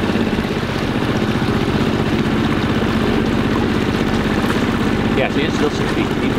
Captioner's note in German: Bootsmotor rumpelt laut